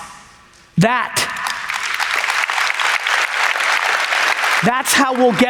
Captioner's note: audience applauds